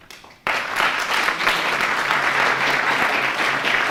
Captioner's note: applause